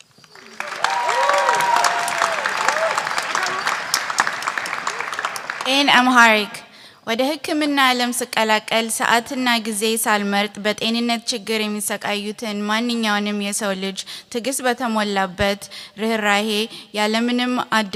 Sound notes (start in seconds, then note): 0.2 applause; 7.0 speaking amharic